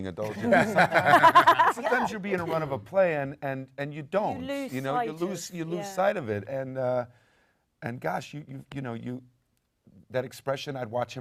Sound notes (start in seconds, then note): 2.9 panel laughs